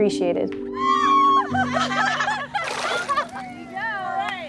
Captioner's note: yelling, laughing